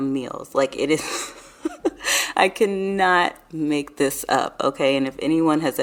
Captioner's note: laughs